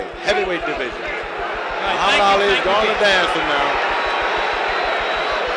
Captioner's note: bell sounds